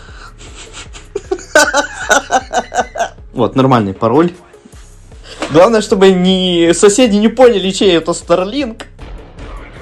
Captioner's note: hahaha